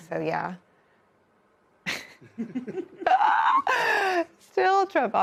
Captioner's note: laugh